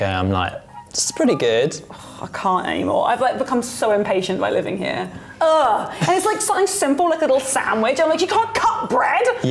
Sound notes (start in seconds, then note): 1.7 sighs; 5.8 laughs